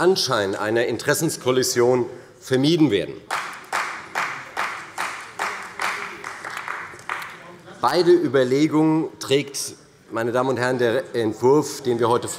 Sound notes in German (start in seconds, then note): 3.2 Demonstrativer Beifall bei der CDU